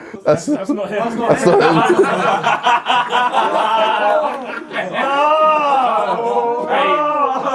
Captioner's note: audience laughs; laughs